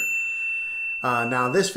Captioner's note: bell dings